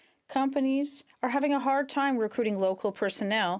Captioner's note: speaking French